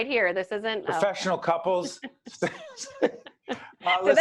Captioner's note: laughing